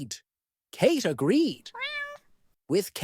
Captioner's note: meow